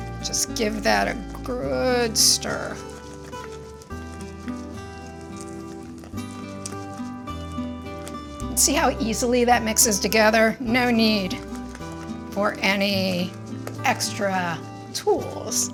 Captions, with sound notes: Just give that a good stir. (ingredients swooshing) (gentle music continues) See how easily that mixes together? No need for any extra tools.